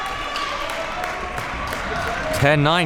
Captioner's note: spectators shouting